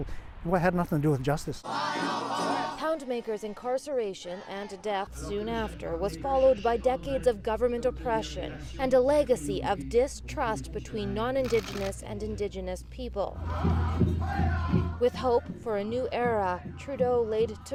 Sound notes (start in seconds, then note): none